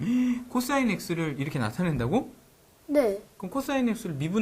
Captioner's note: surprised